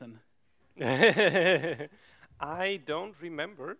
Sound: giggles

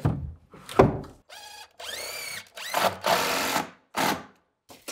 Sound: drill whirring

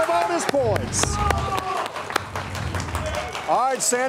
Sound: crowd cheering

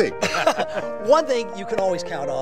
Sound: laughs

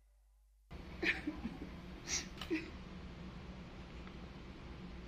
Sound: woman sobbing

